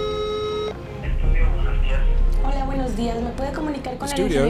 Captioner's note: Spanish spoken audio